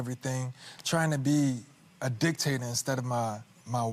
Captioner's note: none